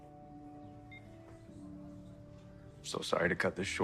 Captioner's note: phone beeping